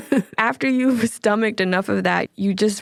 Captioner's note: laughs